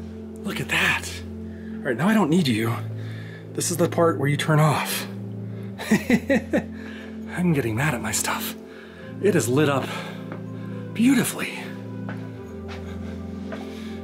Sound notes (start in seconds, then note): 5.8 laughs